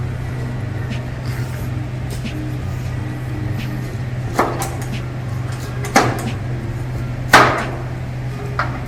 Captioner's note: laughs